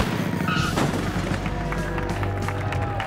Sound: crash

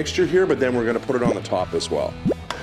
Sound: popping

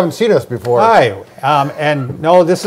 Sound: laughing

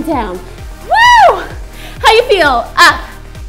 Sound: screams

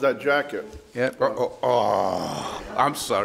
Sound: groaning

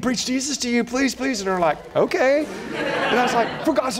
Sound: laughter

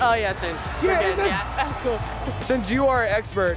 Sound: laughs

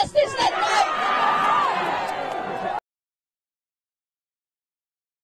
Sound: audience cheering

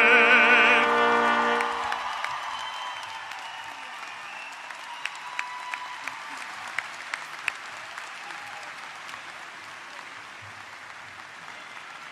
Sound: applause

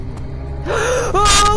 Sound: monster moan; gasp

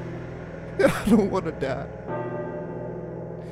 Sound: crying

